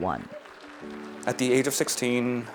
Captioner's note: audience applause